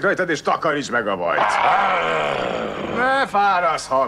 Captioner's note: growls